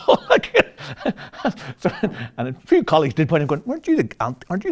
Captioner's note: laughs